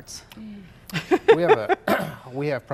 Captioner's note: laughs